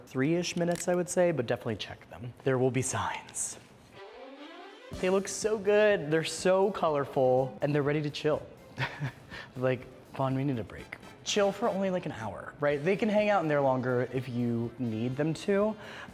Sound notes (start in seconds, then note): 8.7 laughs